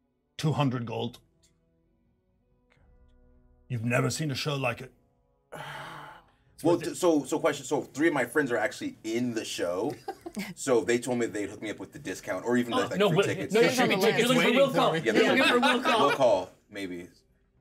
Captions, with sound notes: - 200 gold. You've never seen a show like it. - Ah! - Well, so a question. So three of my friends are actually in the show. (speaker laughs) (speaker chuckles) So they told me they'd hook me up with the discount or even with a free ticket. - No, there should be tickets waiting. - We should be on the list. - You're looking for a will call. - You’re looking for will call. (speaker laughs) - Will call, maybe.